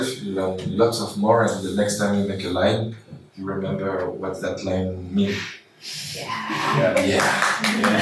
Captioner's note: applause